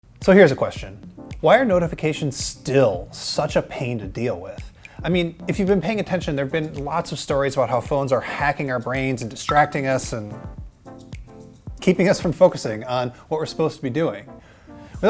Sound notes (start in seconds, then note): 9.4 phone notification; 10.4 bright elevator music